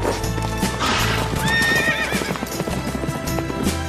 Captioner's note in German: Pferde wiehern